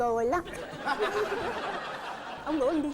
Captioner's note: laughing